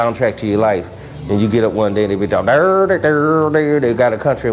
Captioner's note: imitates guitar